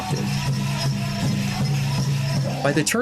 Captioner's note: jingles loud